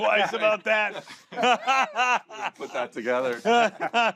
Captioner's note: all laugh